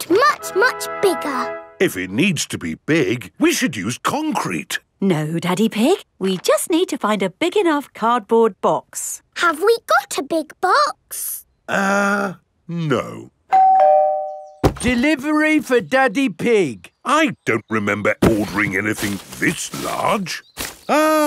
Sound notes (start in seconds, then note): 13.5 doorbell rings